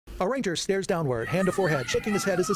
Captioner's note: children excitedly shouting